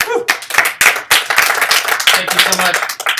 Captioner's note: audience applauding